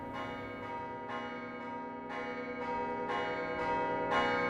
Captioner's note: chimes finish